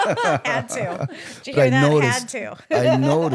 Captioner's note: laughing